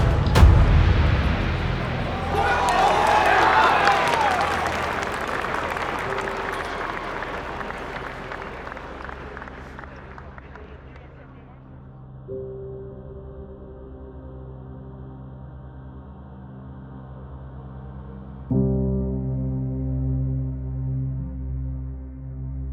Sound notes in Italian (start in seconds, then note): 2.7 grida di vittoria e applausi; 6.1 applausi sfumano; 6.1 note di musica malinconica